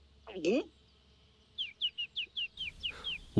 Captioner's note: birds chirping